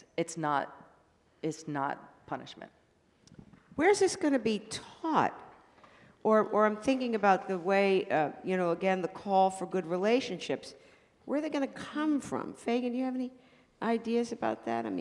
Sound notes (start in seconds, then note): none